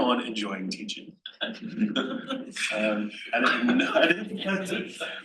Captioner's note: panel laughs